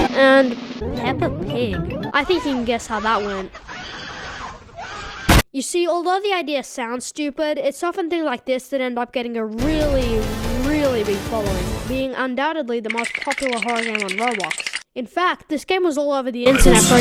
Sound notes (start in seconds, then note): 0.8 drum roll; 3.3 kid screaming in fear